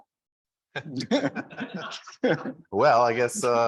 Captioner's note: all laughing